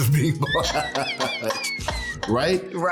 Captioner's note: laughing